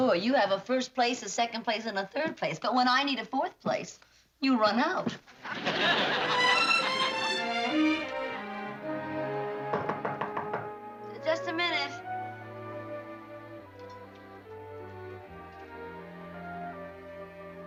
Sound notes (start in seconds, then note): 9.6 knocking